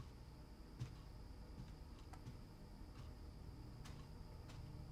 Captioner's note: clock ticking